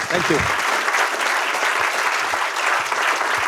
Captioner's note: applause